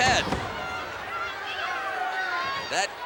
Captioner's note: audience chattering